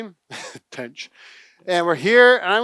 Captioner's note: laughs